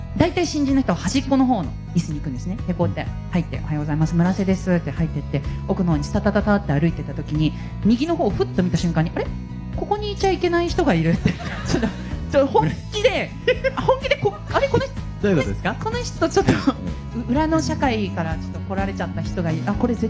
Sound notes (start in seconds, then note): 13.8 laugh